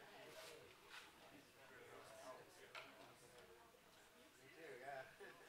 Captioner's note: background chatter